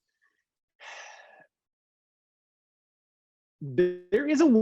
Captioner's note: sighing